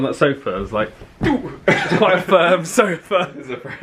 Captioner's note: sofa thuds firmly